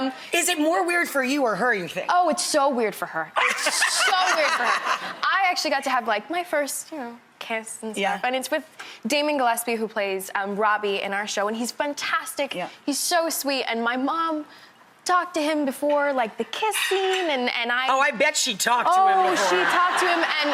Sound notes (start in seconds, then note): 3.4 laughs; 19.2 audience laughs